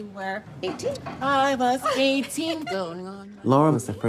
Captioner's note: laughing